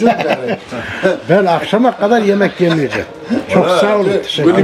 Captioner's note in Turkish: kahkaha